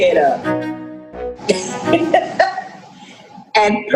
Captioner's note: laughing